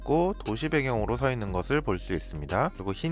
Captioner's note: voiceover